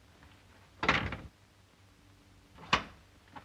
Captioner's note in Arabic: يغلق الباب